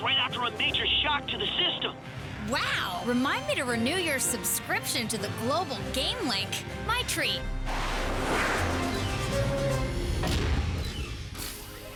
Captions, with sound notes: FIGURED IT WOULD BE AT ITS WEAKEST RIGHT AFTER A MAJOR SHOCK TO THE SYSTEM. WOW! REMIND ME TO RENEW YOUR SUBSCRIPTION TO THE GLOBAL-GAMELINK. MY TREAT! (JETS WHOOSH BY)